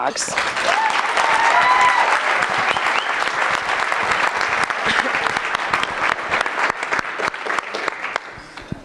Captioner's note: applause